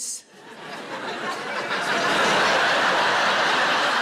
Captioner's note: audience laughs